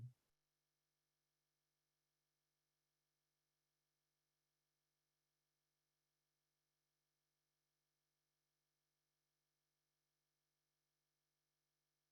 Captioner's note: silence